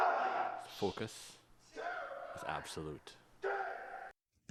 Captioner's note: shouting